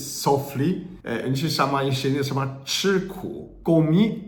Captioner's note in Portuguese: falando em chinês